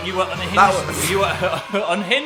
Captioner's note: laughing